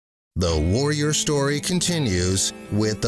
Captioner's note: voiceover